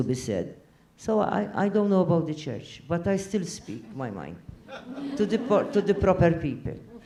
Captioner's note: laugh